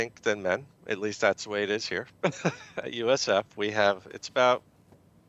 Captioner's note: chuckling